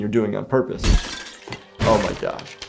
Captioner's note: window breaks